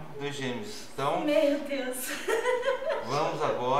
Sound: laughter

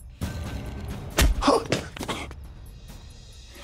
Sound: Kohli gasps

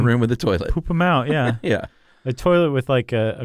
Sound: laughs

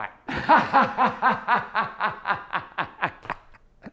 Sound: laughs

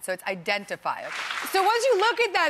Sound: audience applauding

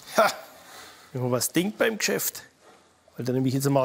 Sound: laughs

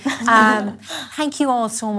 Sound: laughes

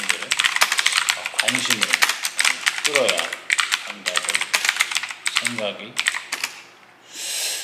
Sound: typing

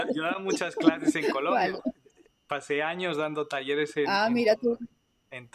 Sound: laughs

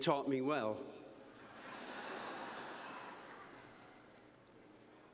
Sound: laughter

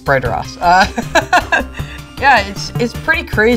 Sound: laughs

